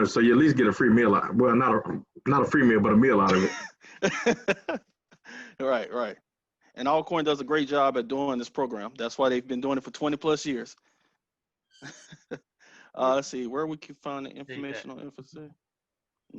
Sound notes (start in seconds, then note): 3.2 man laughing